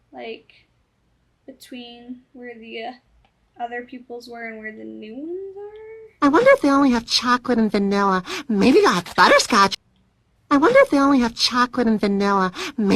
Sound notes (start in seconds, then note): 8.2 gasp; 12.5 gasp